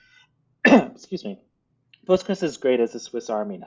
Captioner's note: coughs